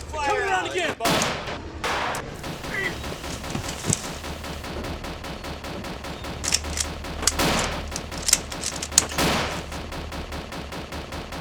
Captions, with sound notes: - Get that fire out. - Come around again boy. (groaning) (gun cocking) (firing)